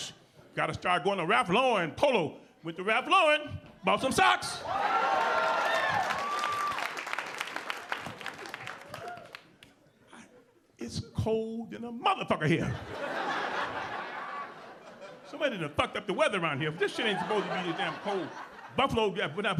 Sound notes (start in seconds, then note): 4.8 audience applauding; 12.6 audience laughing